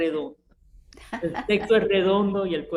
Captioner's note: risas